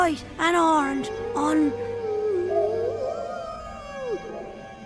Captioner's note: ghostly wailing